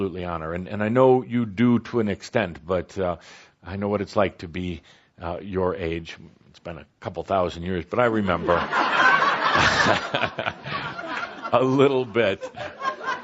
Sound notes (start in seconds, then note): 8.4 laughter